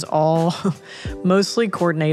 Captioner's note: chuckles